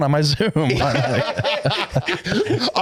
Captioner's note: laughing